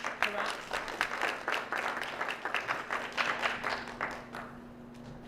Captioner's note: applause